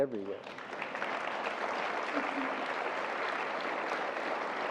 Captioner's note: audience applause